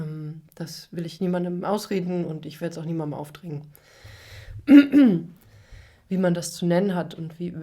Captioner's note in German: husten; räuspern